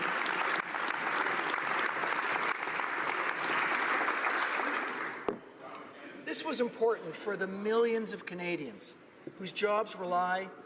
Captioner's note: applause